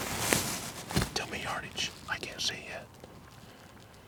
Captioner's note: whispering